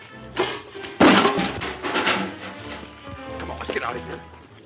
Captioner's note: loud crash